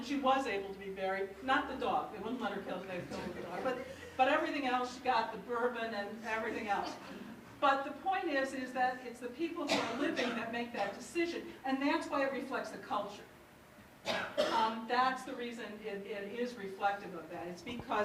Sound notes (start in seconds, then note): 3.0 audience laughter